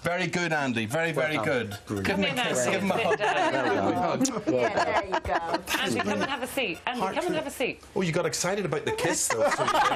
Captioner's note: laughter